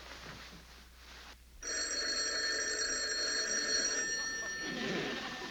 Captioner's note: phone rings